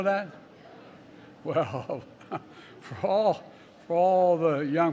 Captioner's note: laughs